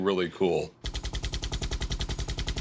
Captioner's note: machine gunfire